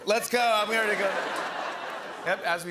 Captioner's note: laughter